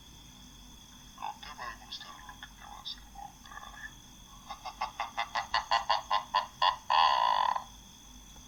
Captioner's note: laughs